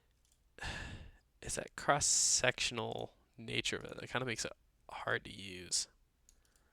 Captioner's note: sighs